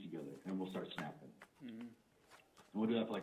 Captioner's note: snapping and humming